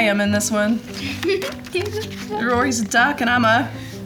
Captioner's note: laughs